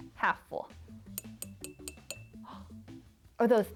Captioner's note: jar tinking